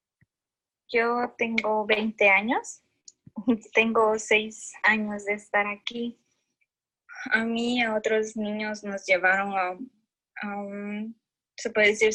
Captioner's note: speaking in Spanish language